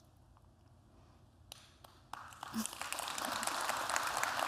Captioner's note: applause